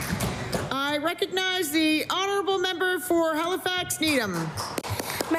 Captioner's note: applause